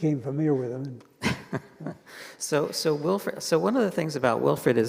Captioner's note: chuckles